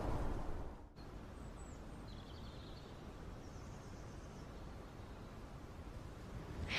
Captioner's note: wind